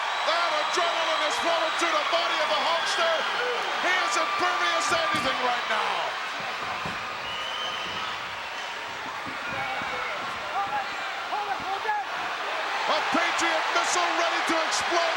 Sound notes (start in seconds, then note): 5.9 crowd yelling